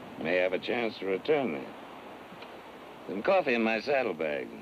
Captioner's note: none